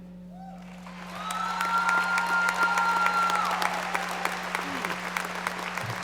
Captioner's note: audience applauding